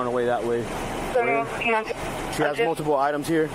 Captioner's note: radio chatter